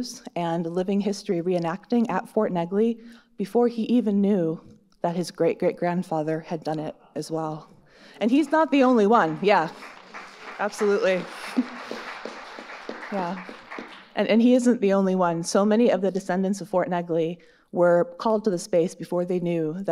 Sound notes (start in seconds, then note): 11.1 audience applauding